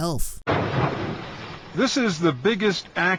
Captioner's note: fire exploding